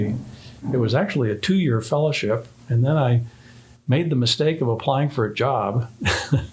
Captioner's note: laughing